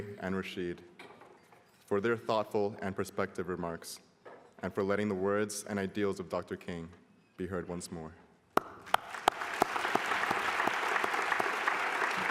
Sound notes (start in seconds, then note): 8.6 applause